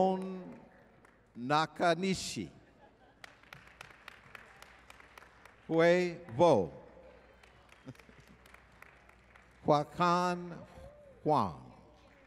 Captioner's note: applause